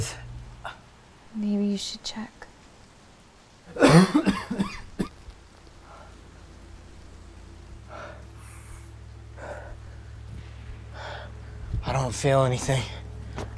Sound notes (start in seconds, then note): 3.7 coughing; 5.7 heavy breathing